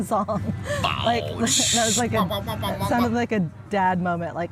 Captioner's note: mimics dubstep noises